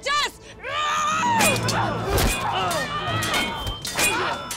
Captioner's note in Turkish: Bağırıyor